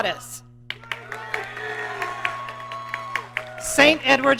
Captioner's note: audience cheering